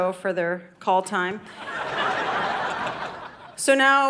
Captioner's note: audience laughing